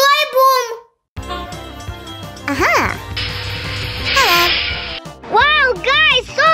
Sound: train sounds and music

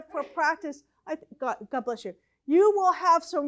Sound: audience sneezes

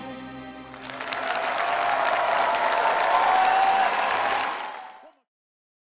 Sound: audience cheering and applauding

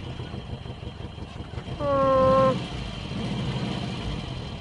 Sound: speaking in a foreign language; engine revving

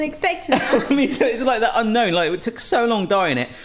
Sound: chuckles

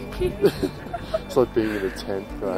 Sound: laughing

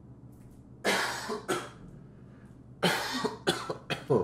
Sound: coughing

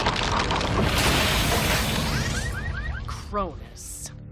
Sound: car alarms blaring

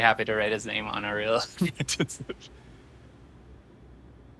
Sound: laughs

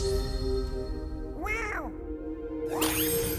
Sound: meows

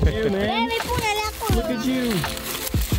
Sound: speaking Romanian; gentle music

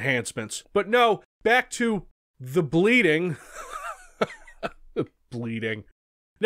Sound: laughing

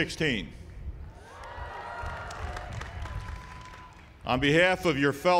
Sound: cheering

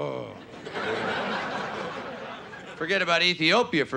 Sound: audience laughing

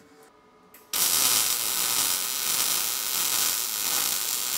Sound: tool crackles

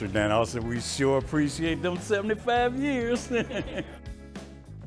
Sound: laughs

